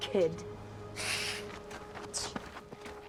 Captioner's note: hisses